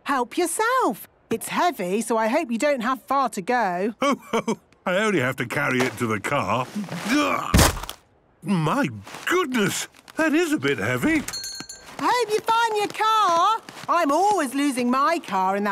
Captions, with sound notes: - Help yourself. It's heavy, so I hope you don't have far to go! - Ho, ho! I only have to carry it to the car. Ugh! - (thuds) - My goodness! That is a bit heavy! - Hope you find your car! I'm always losing my car